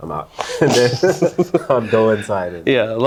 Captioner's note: both laughing